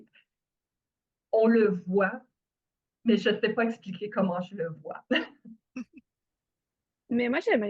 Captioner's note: rire